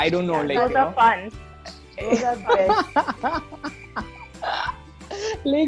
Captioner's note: crickets chirping